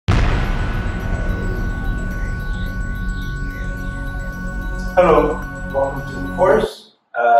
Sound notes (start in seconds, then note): 0.0 explosion sounds; 0.1 suspenseful music